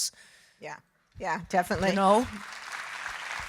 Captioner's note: audience applauding